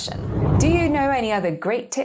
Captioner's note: air whooshing